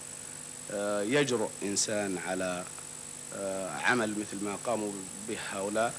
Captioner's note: speaking in Arabic